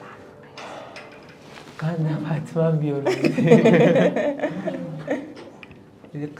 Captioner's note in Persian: خنده